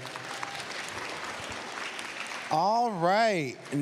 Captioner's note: applause